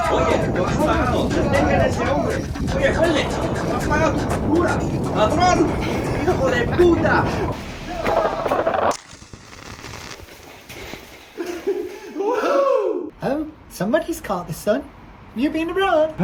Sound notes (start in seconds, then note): 0.1 further foreign shouting; 3.2 Servidor shouts; 5.2 Servidor shouting; 8.2 portal sound; 11.3 laughter